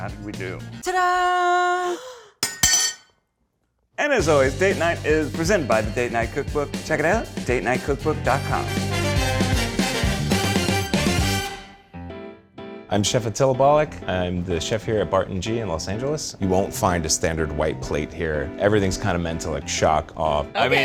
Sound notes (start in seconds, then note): 1.9 gasps; 9.1 funky music